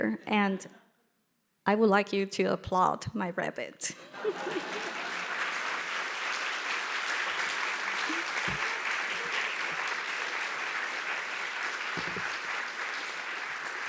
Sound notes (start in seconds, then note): 4.3 audience applauding